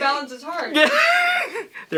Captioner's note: laughter